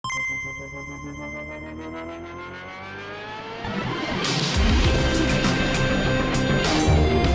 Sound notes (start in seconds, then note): 0.0 computer beep; 3.9 upbeat techno music